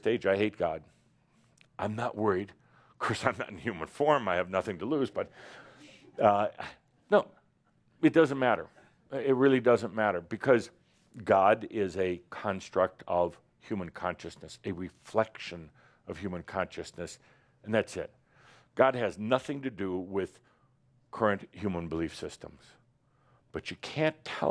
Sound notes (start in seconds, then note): 6.0 some chuckles